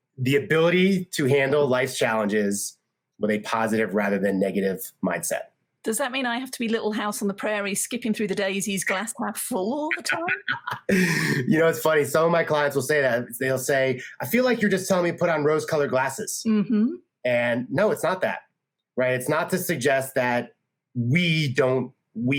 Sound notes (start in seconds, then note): 9.8 laughing